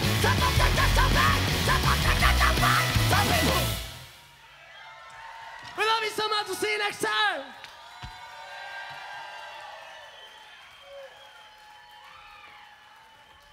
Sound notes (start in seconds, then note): 4.5 crowd cheering